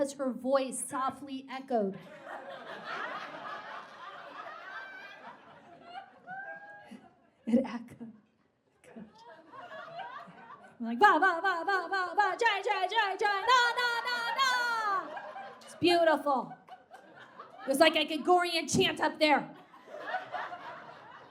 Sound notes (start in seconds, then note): 3.0 audience guffaws and cackles